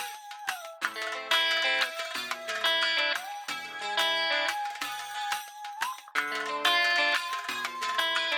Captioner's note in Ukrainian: оплески